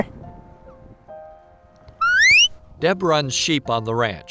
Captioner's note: whistle sound